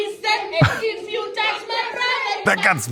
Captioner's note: laughs